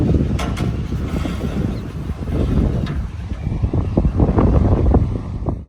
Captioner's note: wind blows heavily